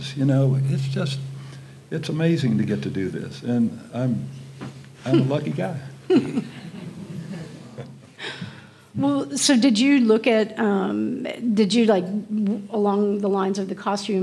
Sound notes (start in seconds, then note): 6.2 audience quietly murmurs